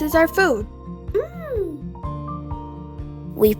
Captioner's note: mmmm!